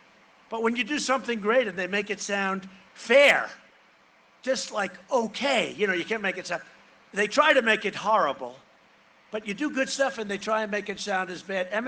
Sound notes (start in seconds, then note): none